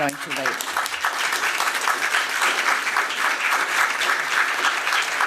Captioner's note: applause